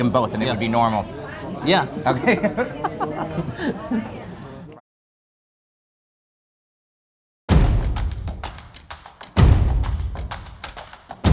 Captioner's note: laughing